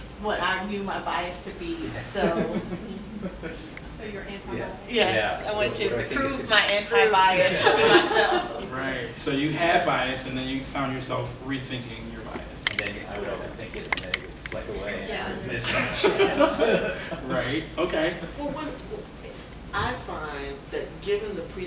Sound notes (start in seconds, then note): 12.7 audience chattering; 15.6 laughs